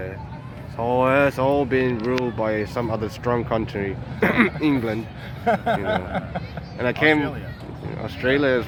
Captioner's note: laughs